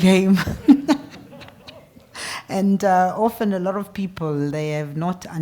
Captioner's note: laugh